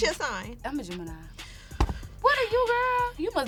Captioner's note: sighs